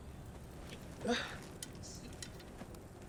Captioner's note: grunting